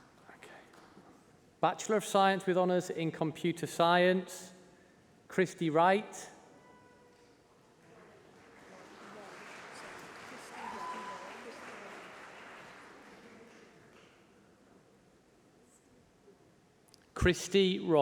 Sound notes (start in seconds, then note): 8.2 applause